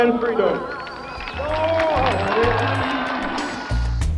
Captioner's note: applause